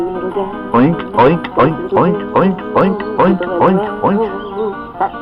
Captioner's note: oinking